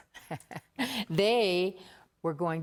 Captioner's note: chuckling